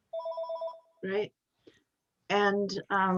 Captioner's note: phone beebs